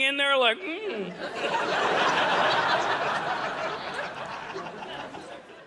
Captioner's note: audience laughing